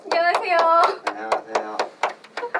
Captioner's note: claps